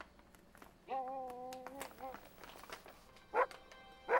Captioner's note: Buck barking